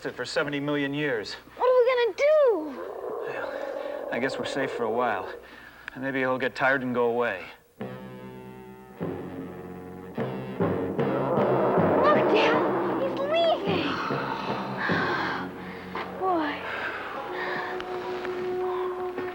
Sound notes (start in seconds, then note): 9.2 intense music; 13.6 group exhaling